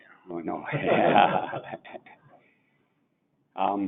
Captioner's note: laughing